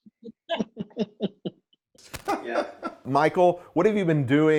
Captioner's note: laughter